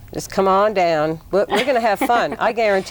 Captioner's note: laughs